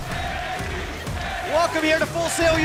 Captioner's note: fans chanting